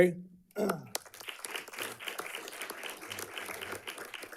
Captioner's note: audience clapping